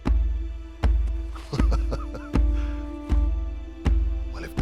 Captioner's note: laughing